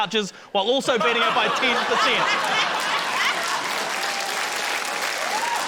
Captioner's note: laughter, applause